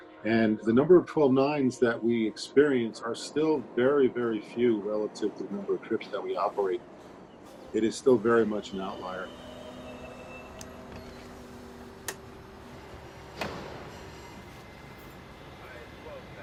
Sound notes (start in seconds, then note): 9.5 machinery whirring; 9.5 tense music